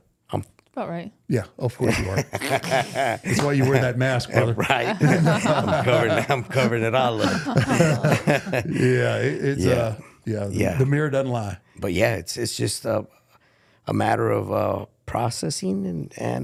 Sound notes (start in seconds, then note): 2.6 laughs; 7.4 all laugh